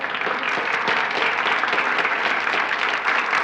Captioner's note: applauding